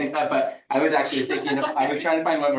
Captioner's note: participant laughing